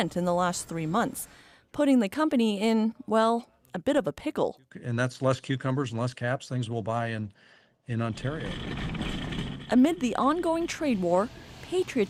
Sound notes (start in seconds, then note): none